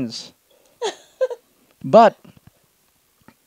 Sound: laughs

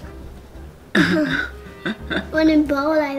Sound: laughing

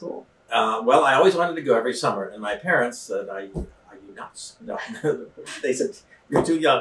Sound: laughs

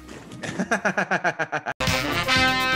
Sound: laugh

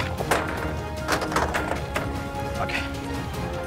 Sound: blasters clattering

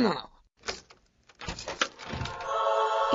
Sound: opening door

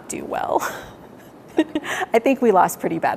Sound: laughs

